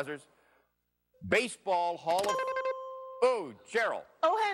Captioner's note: dings